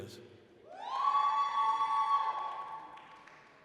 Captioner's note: applause, cheering